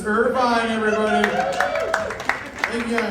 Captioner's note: applause